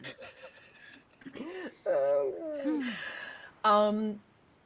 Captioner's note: person chuckling